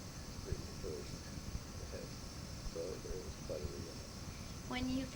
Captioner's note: chuckles